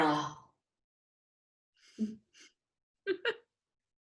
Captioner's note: laughing